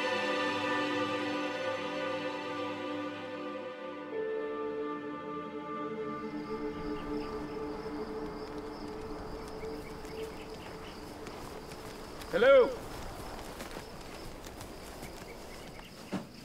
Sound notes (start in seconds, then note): 10.5 crickets chirping